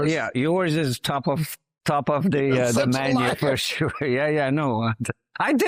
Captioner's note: laughs